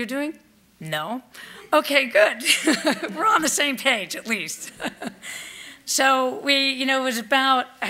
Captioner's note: laughs